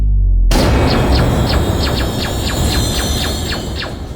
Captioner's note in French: Bruit de tirs laser